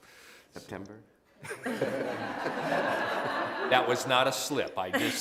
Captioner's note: laughter